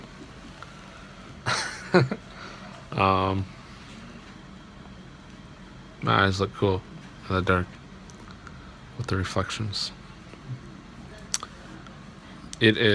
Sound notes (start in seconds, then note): 1.4 laughs